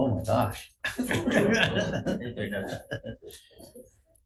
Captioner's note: all laugh